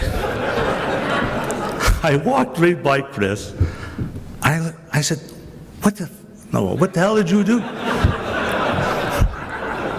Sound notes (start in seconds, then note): 0.0 crowd laughs; 6.7 crowd laughs